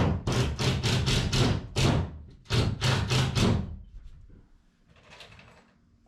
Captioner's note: door creaking